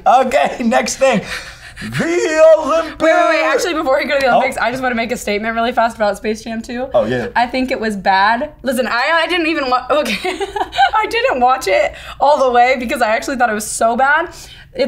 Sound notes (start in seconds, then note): 10.0 laughing